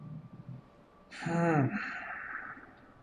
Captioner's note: sighs